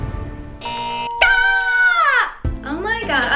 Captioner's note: suspenseful music; bell ringing; buzzer ringing